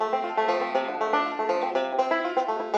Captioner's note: none